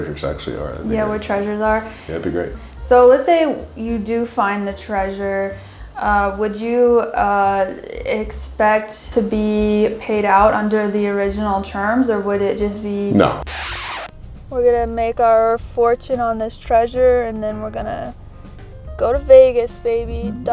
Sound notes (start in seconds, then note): 13.1 record scratch